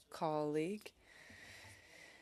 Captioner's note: speaking French